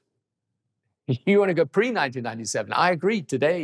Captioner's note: chuckles